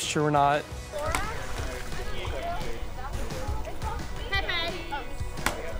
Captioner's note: people chattering